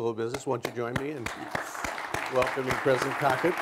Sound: applause

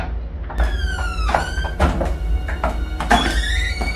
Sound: door swings

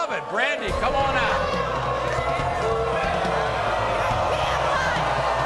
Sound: audience boos

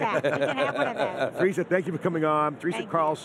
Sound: laughter

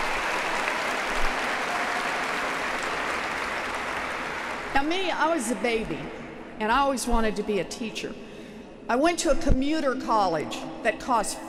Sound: applause

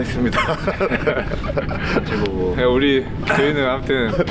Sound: laughing

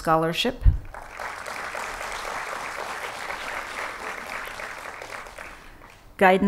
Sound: applause

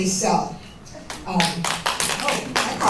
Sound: applause

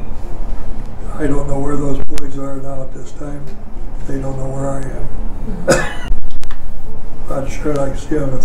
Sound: coughs

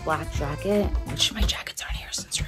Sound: whispering

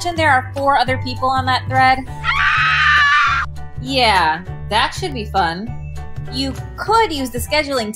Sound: horrified scream

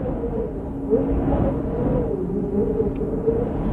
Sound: wind howling

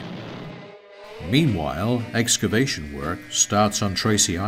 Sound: tense music; crane whirring

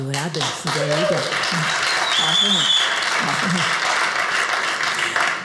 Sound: audience cheers

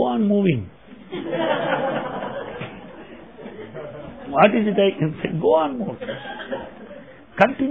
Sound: laughter

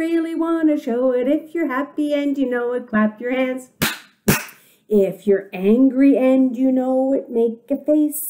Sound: claps hands twice

